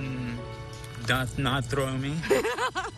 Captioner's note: laughter